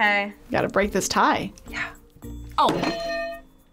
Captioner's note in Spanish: susurra; suenan las campanas